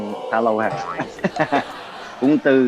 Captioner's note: laugh